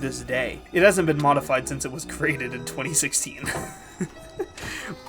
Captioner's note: laughing